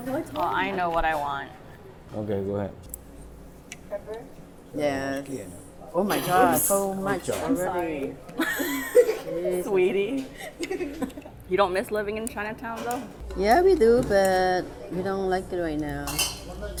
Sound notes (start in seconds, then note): 8.4 laughs